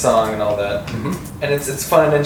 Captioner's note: noise of agreement